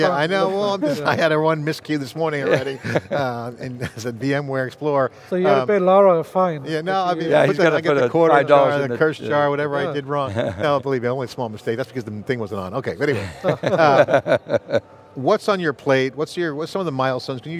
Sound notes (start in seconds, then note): 13.1 both laughing